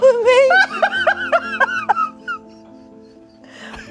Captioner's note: everyone laughs